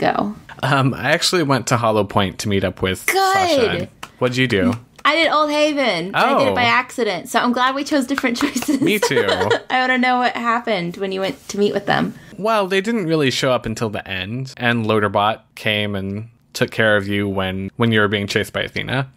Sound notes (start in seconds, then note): 8.1 claps